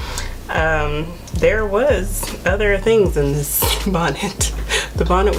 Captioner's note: laughing